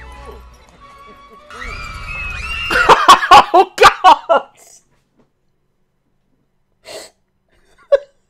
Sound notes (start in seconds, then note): 1.4 more screams from the use to be happy children; 2.7 laughing; 6.8 inhale